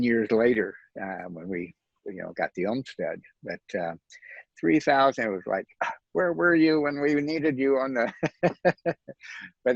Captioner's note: laughs